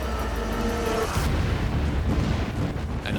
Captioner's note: explosion echoes